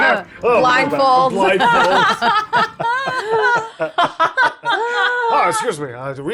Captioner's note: laughs